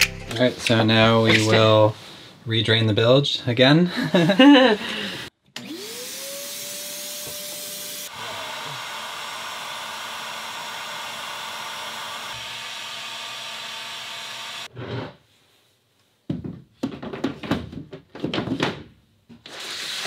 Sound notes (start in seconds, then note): 0.0 upbeat music; 3.9 laughing; 5.6 vacuum and blower engine roaring; 16.3 wood thudding